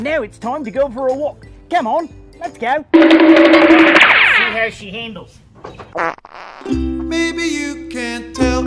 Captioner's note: small fart as he picks up the ladder